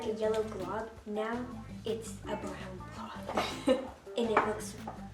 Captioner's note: chuckles